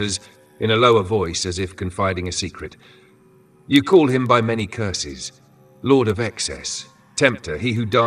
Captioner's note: in a lower voice, as if confiding a secret